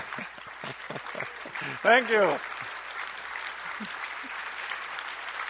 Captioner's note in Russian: аплодисменты; смеется